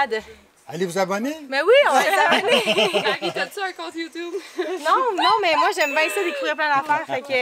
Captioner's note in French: rire